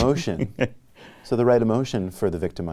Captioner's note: laughs